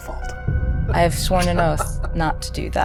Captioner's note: chuckling